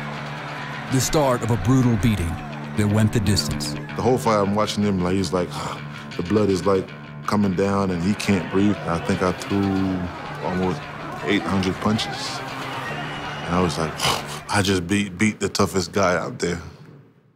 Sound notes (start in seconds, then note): 5.5 gasps